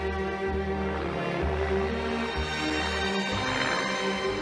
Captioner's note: aeroplane engine approaching